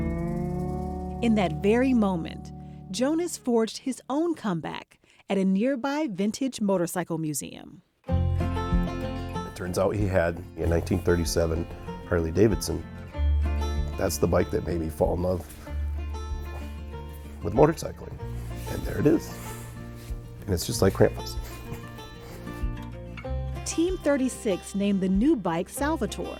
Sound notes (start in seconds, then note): 12.4 speaking with great emotion; 20.9 laughs warmly